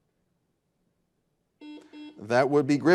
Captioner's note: buzzer buzzing